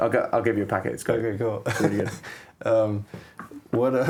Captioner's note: laughs